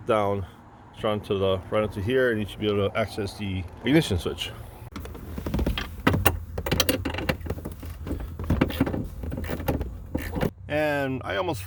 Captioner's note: sound of tools